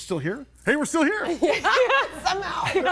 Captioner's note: everybody laughing